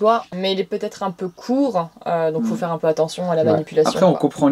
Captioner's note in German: lacht